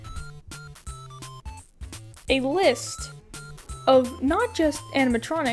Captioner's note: none